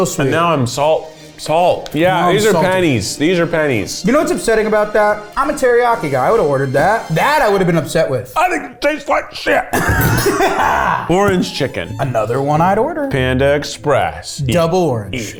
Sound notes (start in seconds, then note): 9.8 laughs; 11.2 orchestra music